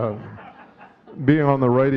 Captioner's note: audience chuckling